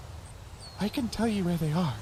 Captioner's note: whispering